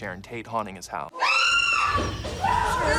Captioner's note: screams